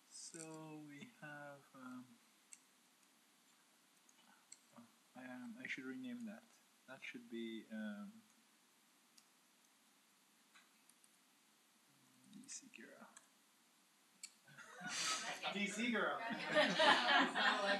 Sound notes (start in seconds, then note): 14.5 laughter